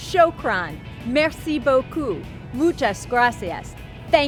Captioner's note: speaking in foreign language